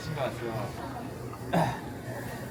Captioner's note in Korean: 헛기침